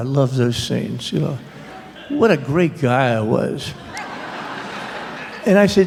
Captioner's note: laughter